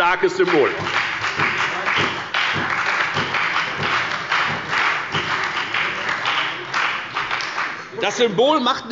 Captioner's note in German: Beifall bei der FDP und bei Abgeordneten der SPD